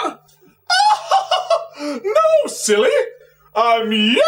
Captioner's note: laughs